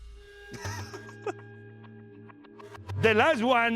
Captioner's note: laughs